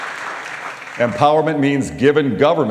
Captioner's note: applause